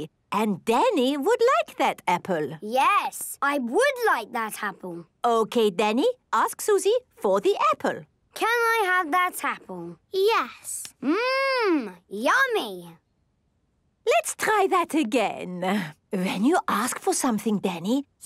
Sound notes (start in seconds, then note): none